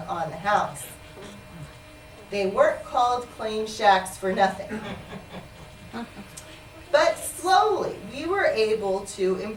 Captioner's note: laughter